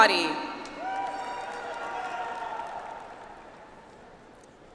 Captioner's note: audience applauds